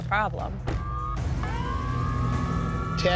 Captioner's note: siren wailing